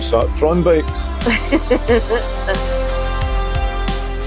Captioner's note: unicorn laughs